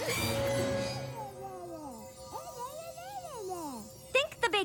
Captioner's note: tinkling